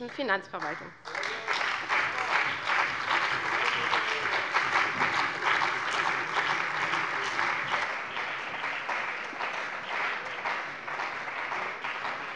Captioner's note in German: Beifall bei der CDU und dem BÜNDNIS 90/DIE GRÜNEN